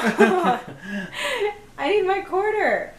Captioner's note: laughs